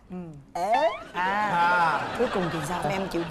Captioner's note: laughing